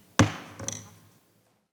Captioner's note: gavel pounding